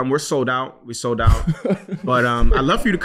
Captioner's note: laughing